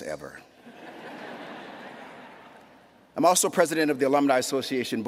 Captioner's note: laughter